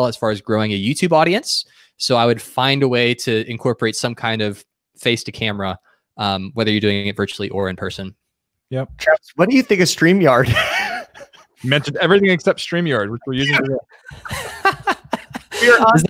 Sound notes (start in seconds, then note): 10.3 laughs